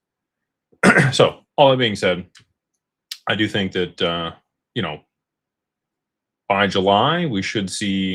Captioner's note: clears throat